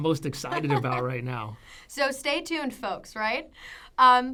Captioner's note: laughs